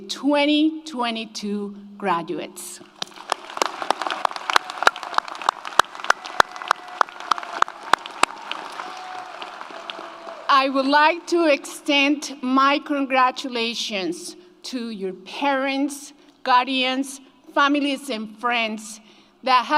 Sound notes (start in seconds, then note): 2.9 audience applauds; 3.0 audience cheers